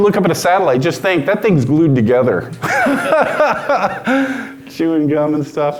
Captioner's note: laughs loudly